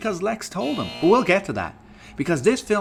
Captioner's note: buzzer